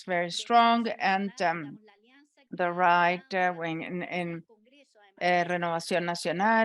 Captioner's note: speaking in a foreign language